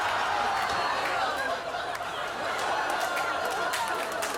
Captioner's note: audience exclaiming